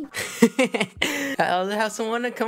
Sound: laughing

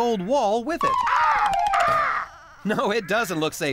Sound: caw! Caw!

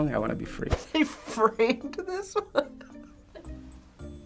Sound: laughing

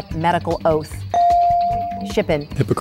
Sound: bell dinging

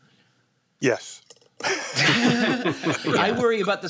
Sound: laughter

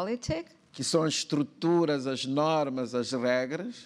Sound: speaking portuguese

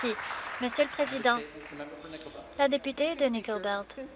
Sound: some Applause

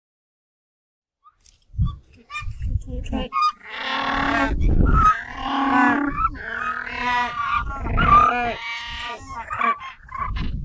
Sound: sound of penguin

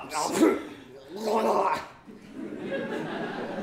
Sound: spits; laughter

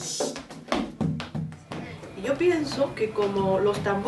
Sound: speaking in Spanish

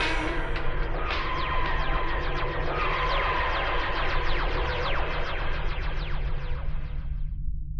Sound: TARDIS wooshing

